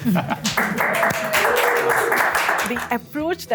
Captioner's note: laughs; applause